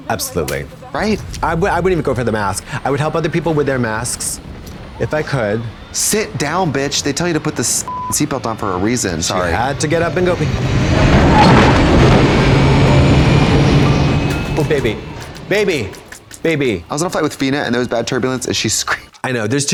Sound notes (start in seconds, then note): 7.8 beep; 11.3 plane engine failing